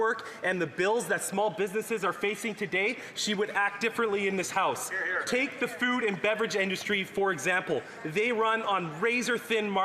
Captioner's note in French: voix de l'interprète